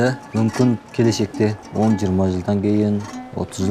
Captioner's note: man speaking Chinese: English translation on screen